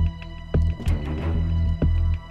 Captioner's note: Car door opening